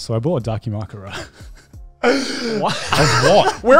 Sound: laughs

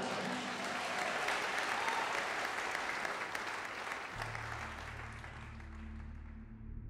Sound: congregation clapping

